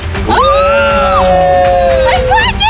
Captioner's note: screaming